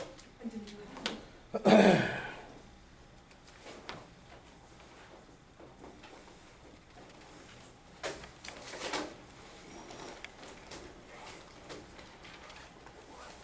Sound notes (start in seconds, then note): 1.5 clears throat